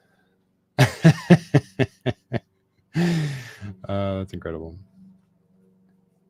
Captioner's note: laughing